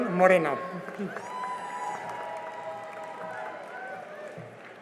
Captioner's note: cheering and applause